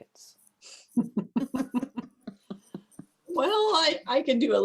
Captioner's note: laughter